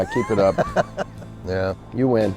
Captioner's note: laughs